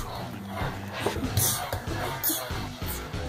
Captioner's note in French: voix du bébé